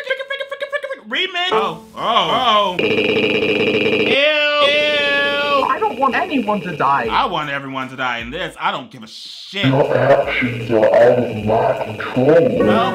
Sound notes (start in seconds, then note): 3.9 warbling cackling